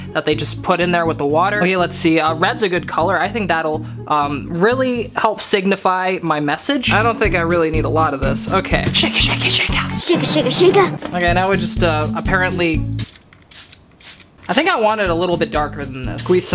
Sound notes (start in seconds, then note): 13.5 water sprays